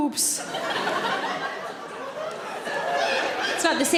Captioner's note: audience laughing